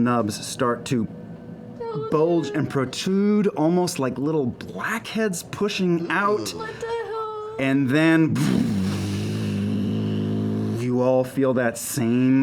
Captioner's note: deep humming